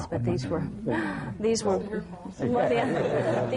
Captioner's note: laughter